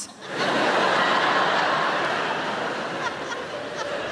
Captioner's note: audience laughing